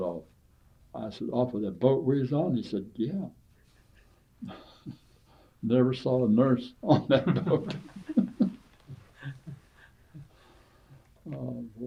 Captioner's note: laughter